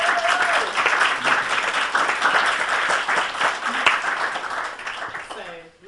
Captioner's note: audience applauds